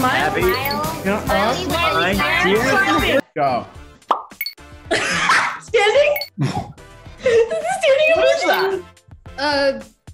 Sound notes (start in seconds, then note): 5.0 Maitreyi laughing